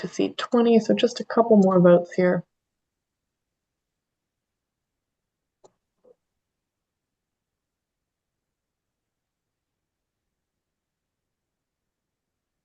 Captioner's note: pause